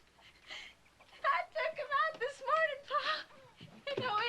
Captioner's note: crying